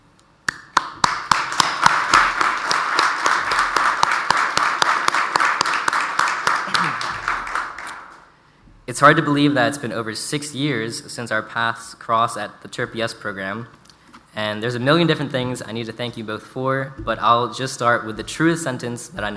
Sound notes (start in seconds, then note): 0.7 audience applauds